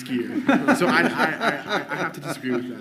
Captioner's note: audience laughing